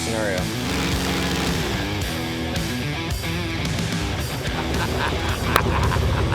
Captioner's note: airboat motor runs and stops; laughs